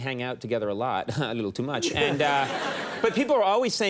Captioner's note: audience laughing